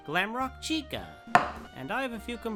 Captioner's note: tap